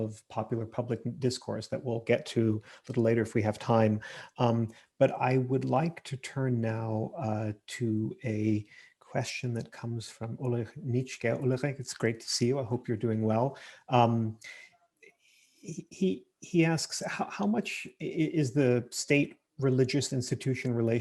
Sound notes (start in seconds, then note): 8.1 murmurs